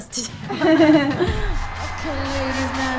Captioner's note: laughing